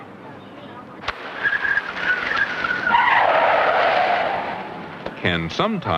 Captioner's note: brakes screeching